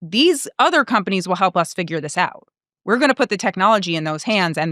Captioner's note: none